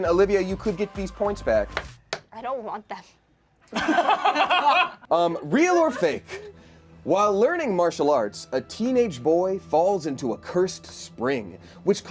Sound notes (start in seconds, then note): 3.7 laughs